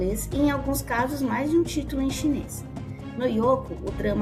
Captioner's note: Mandarin